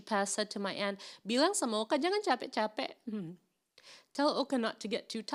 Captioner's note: speaking in foreign language